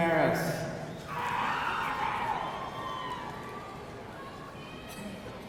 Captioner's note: audience cheering